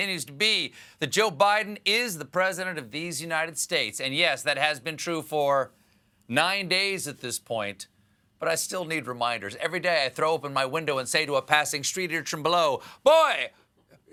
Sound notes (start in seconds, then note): none